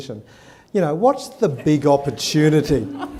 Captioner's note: laughter